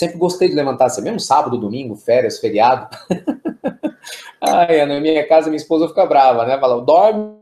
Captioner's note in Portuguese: risos